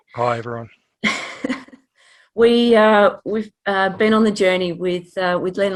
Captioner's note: chuckles